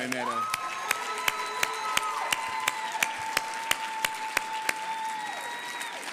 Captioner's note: audience applauding and cheering